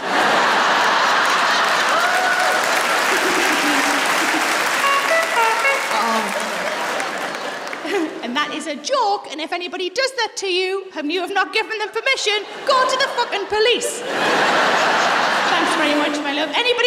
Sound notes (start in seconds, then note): 0.2 laughter and applause; 4.6 honks like a clown's horn; 13.7 laughter